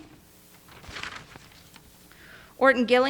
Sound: page rustling

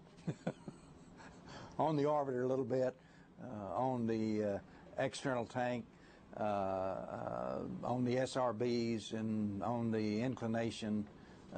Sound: laughter

